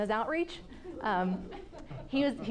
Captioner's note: class laughing